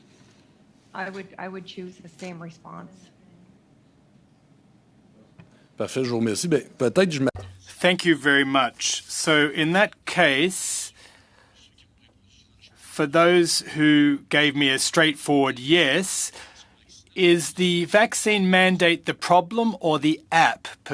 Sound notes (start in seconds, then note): 9.6 speaking French